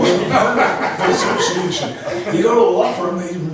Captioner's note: laughs